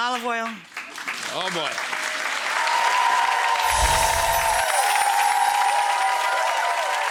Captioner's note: audience applauding